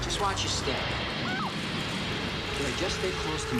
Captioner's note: ta'ra cries out